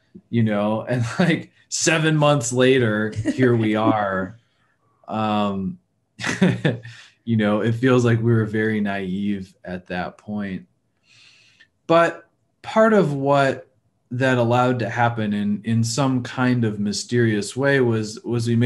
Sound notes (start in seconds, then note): 0.9 chuckles; 3.1 laughing; 6.2 laughing